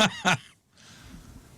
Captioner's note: laughing